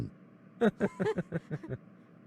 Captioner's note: scattered laughter